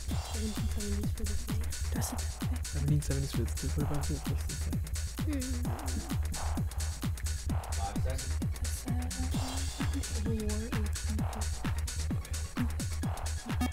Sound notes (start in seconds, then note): 2.8 wispering